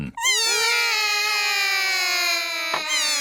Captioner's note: all cry